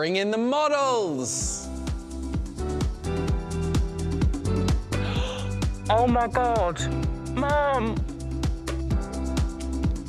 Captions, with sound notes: Bring in the models! (emotive music) (gasps) Oh, my God! Mum!